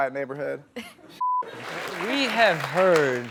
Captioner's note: beep